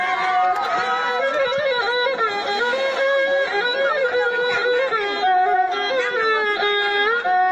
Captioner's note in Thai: ปรบมือ